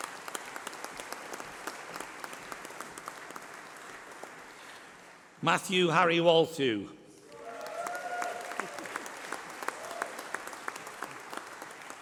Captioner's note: applause